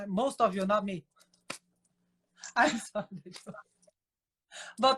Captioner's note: laughing